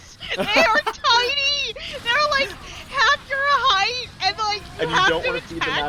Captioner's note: laughs